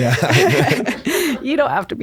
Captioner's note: laugh